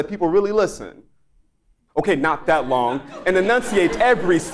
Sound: laugh

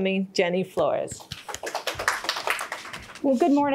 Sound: audience clapping

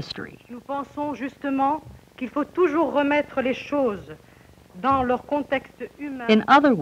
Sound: speaking French

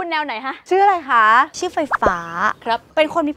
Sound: electricity

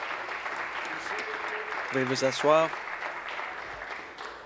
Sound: applause

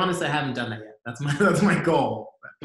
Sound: laughs

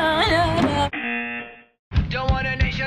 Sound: buzzer

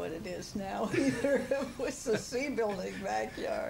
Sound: laughter

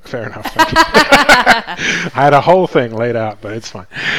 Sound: both laugh

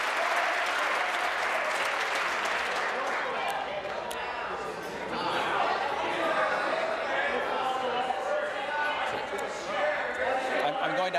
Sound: some Applause

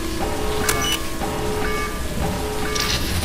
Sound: time bomb bleeps

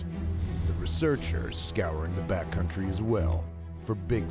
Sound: voiceover

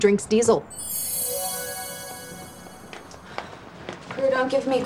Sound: bells gently chiming

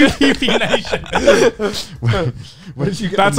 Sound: laugh

